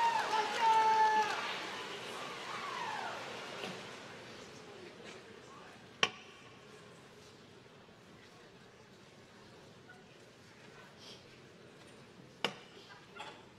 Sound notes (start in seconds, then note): 0.0 applause